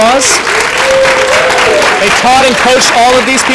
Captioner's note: applause